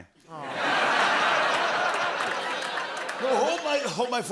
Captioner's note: laughter